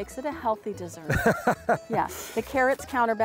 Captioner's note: laughter